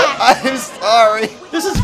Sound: canadian sobbing

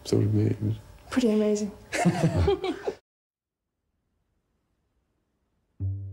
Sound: Charles laughing; dramatic music

